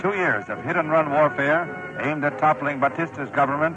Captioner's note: archival news audio